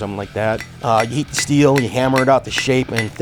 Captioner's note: hammer thudding